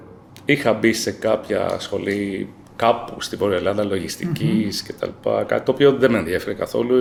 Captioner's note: laughs